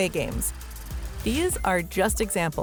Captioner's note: whirring sound